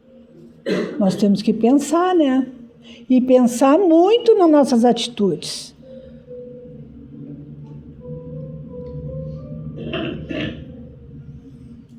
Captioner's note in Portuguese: limpando a garganta; tosse